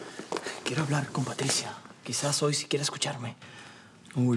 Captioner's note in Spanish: En voz baja